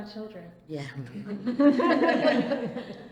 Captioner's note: laughter